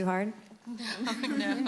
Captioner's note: laughter